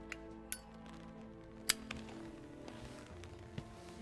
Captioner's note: lighter clicking